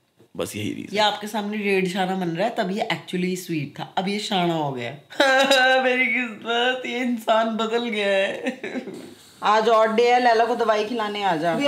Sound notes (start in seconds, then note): 5.1 weeping; 6.3 crying